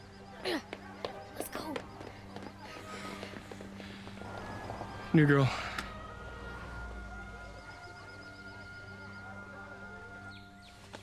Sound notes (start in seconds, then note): 0.3 grunts; 7.7 birds chirping